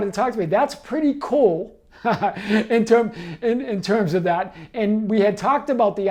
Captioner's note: laughing